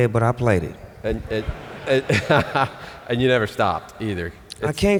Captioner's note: laughs